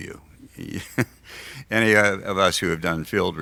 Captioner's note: laughs